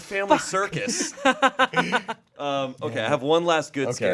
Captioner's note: laughing